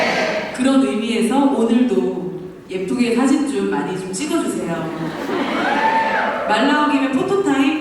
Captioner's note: laughter